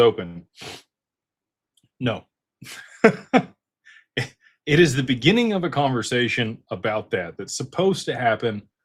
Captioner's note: snorts; laughter